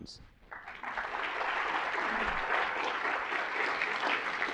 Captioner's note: applause